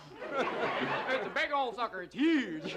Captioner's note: audience laughs